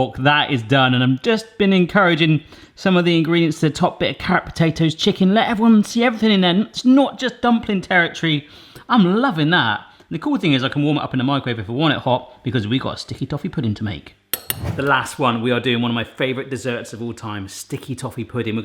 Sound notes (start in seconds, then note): 14.3 fork chinking; 14.4 whooshing